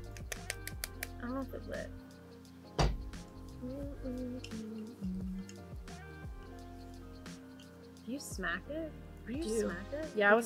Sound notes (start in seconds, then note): 3.5 humming